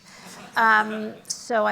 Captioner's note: laughter